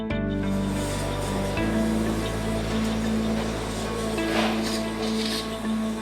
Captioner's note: suctioning